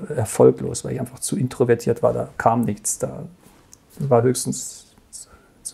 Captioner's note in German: flüstert